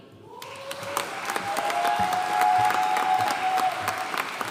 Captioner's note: audience cheering and applauding